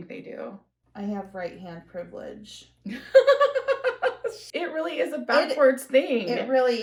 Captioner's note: laughter